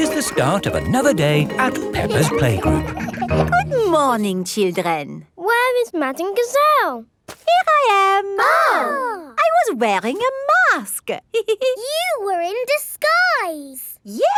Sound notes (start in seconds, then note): 7.8 exclaiming; 11.3 giggles